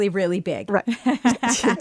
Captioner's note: laughter